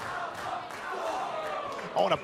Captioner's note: fans chanting